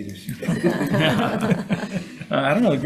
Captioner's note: senators laughs